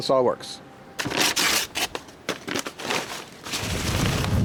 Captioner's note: paper tearing; wind gusting